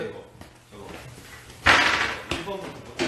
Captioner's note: the 1st of many table bangs